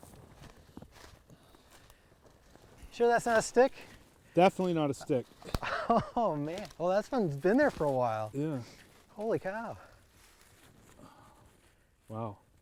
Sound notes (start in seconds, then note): 0.0 footsteps crunching; 5.6 chuckling